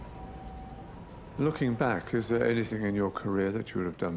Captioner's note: voiceover